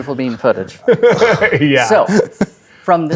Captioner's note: laughing